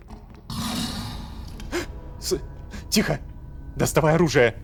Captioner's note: monster's roar